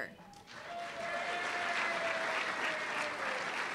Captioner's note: applause